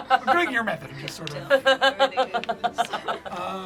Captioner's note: laughs